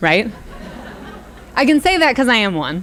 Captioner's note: audience laughs